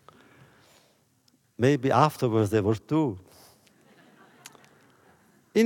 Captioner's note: laughter